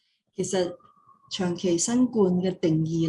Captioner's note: non-english speech